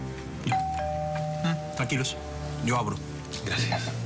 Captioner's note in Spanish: Timbre de la puerta